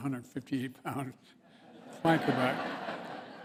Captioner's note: laughter